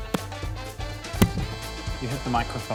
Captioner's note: clunk!